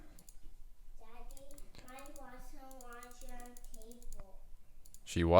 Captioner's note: kid talking in background